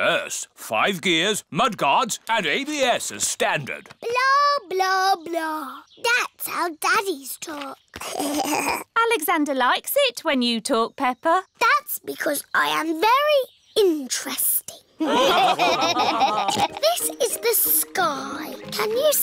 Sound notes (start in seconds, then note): 8.0 alexander giggles; 15.0 laughter; 16.9 snorts